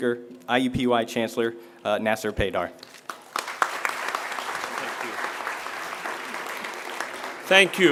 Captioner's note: applause